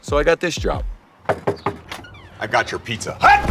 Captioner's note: hand knocking